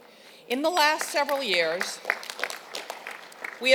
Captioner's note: applause